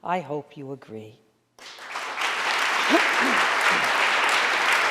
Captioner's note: audience applauding